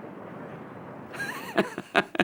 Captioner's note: laughs